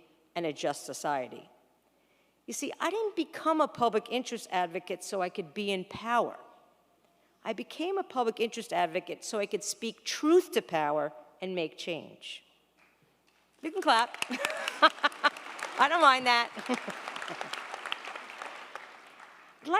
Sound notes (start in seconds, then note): 14.2 laughing; 17.4 crowd applauding